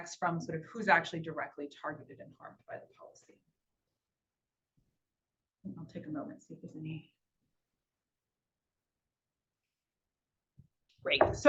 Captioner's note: silence